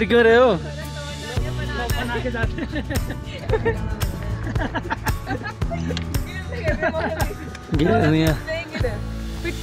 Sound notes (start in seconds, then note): 1.9 laughs